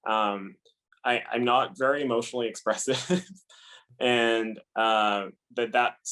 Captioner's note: laugh